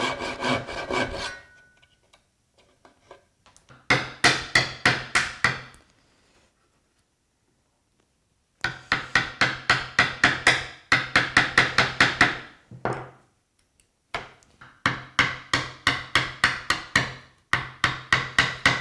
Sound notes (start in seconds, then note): 0.0 saw on wood rasping; 4.4 mallet on chisel tapping; 12.9 mallet on desk clunking; 15.1 mallet on chisel tapping